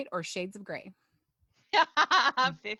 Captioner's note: laughter